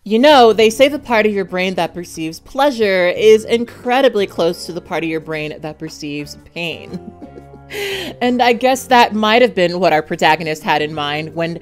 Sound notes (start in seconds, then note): 6.8 laughing